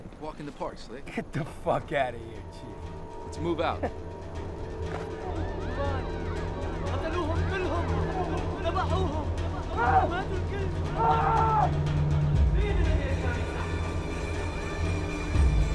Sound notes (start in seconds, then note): 3.7 laughs; 5.5 speaking foreign language; 9.6 yelling